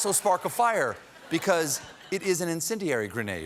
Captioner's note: laughter